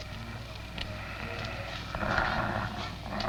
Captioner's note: grunting